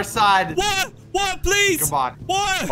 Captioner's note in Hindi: लाफ